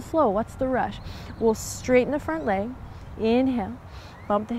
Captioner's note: takes deep breath